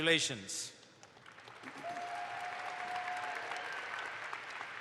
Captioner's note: audience applauds